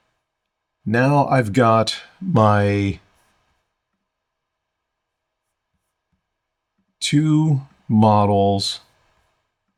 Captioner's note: silence